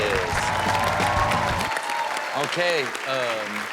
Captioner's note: upbeat music; audience applauds and cheers